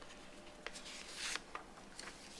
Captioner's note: rustles